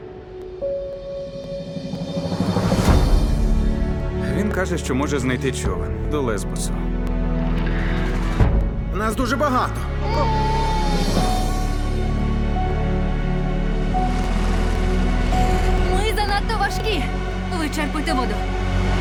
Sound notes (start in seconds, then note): 10.0 baby cries; 10.8 emotional music playing